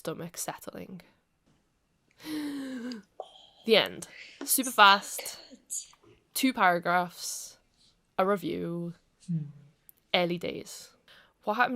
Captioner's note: deep breath